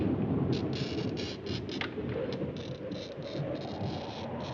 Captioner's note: scratching